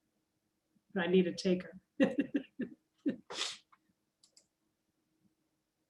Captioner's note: laughs